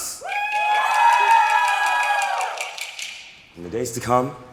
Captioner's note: applause